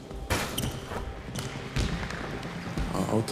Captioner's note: basketball ring squeaking